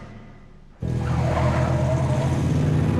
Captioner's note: tires screech